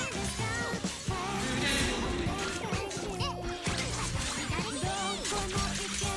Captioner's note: enemy voice cue